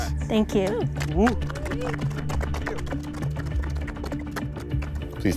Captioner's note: contestants clapping